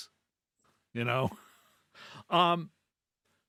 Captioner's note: laughs